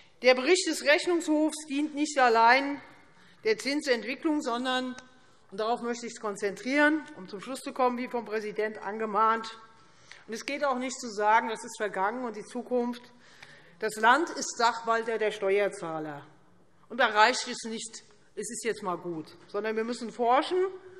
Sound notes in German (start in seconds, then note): none